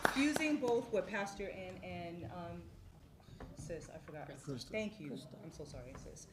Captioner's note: applause